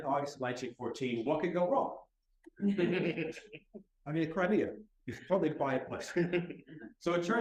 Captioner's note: laughter